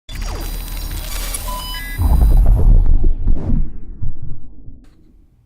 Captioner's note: electronics beep and air whooshes